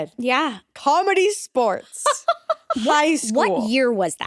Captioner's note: laughing